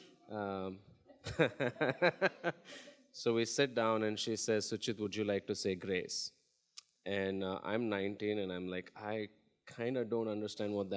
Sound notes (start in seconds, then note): 1.3 laughs